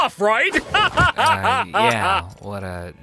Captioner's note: laughing heartily